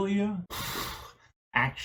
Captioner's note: sounds of exasperation